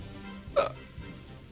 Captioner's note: burp